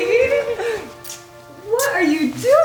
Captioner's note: kisses